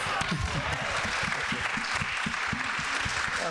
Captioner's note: people clapping